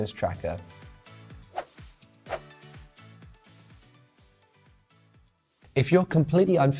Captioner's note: upbeat music; graphics whooshing